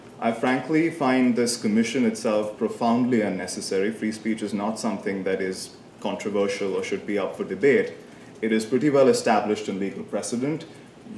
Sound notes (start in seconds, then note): none